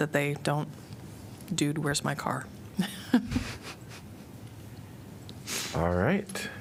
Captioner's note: laughter